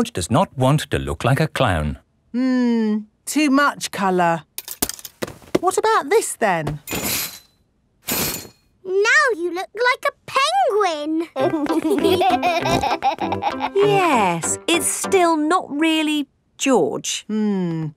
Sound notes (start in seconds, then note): 11.3 laughing